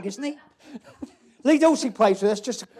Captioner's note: laughter